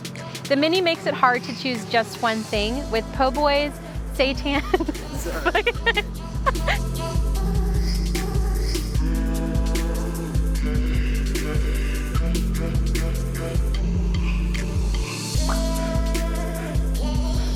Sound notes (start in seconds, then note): 4.5 laughs loudly; 7.5 cheerful music